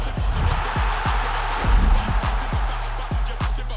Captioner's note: crowd roaring